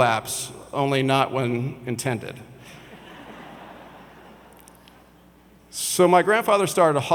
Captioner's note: audience laughs